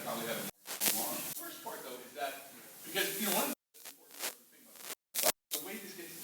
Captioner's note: static; static